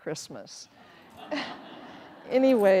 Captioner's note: audience awes happily